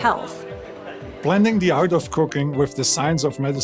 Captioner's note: with Austrian accent